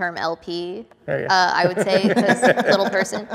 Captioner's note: group chuckles